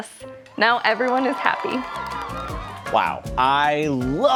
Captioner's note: crowd cheering